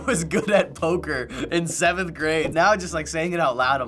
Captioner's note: laughs